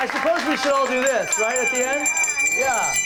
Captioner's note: applause